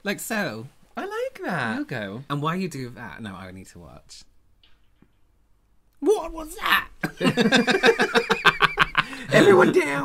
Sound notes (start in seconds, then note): 4.5 spooky background noise; 7.0 laughter